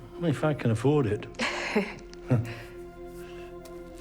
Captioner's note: both chuckling